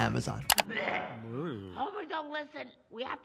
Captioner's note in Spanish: Marge vomitando